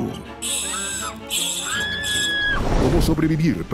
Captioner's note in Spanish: Gritos